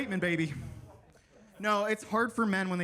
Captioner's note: attendees laughing; attendees faintly speaking